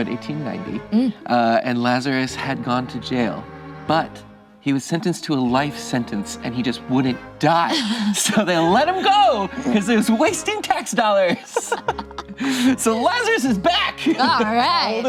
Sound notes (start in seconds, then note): 11.0 group laughs